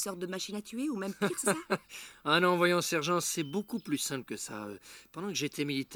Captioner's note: laughter